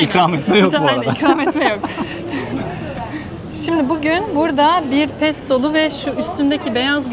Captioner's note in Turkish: kahkaha